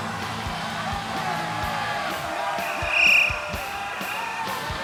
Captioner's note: audience cheering